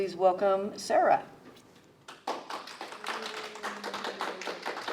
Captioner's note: applause